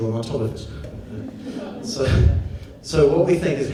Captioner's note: audience laughs